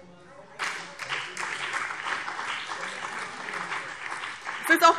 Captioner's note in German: Beifall BÜNDNIS 90/DIE GRÜNEN